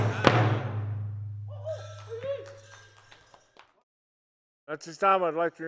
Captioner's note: person whoops; people clap